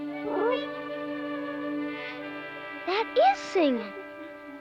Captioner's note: whining happily